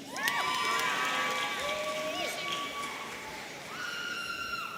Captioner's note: audience cheering